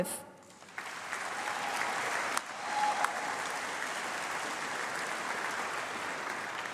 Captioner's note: applause